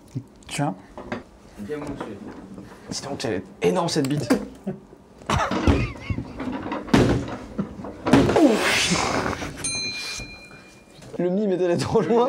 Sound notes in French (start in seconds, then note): 5.2 rire; 8.9 rire